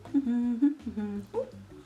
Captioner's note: hums